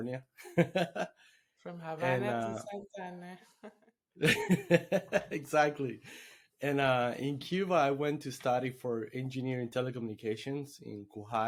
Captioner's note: laughing